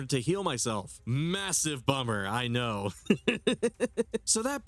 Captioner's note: laughs